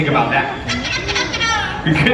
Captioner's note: makes silly noise